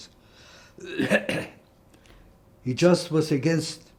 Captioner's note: coughing